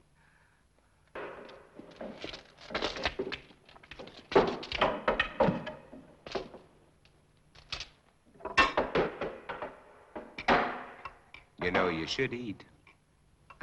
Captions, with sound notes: (boards clattering) - You know, you should eat.